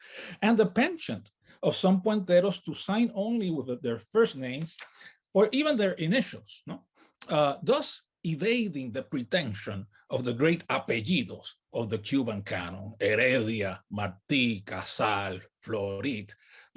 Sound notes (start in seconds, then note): 12.6 speaks in native language